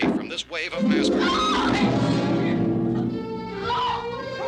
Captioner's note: screaming